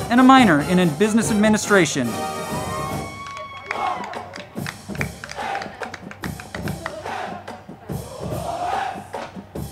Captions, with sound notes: and a Minor in Business Administration. (band music) (crowd clapping and cheering)